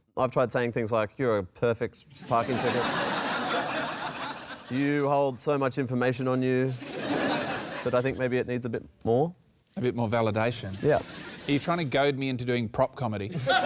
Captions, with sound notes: I've tried saying things like, "You're a perfect parking ticket." (LAUGHTER) "You hold so much information on you." But I think maybe it needs a bit more. A bit more validation? Yep. Are you trying to goad me into doing prop comedy?